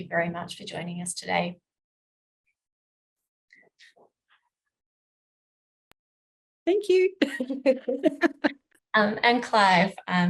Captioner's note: laughs